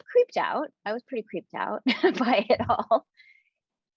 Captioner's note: chuckling